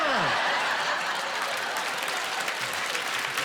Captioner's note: laughing